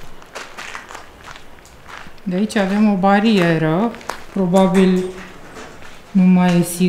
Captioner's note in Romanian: Aplauze